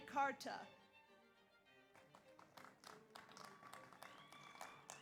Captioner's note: audience applauds